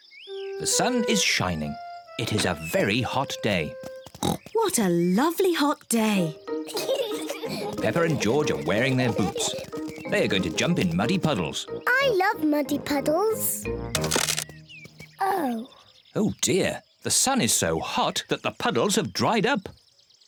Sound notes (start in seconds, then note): 4.2 oinks; 6.6 peppa and george giggle; 14.0 cracking